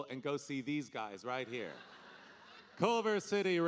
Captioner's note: audience laughing